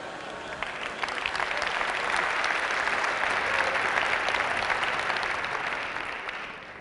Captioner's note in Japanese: 拍手